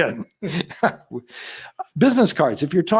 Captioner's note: laughing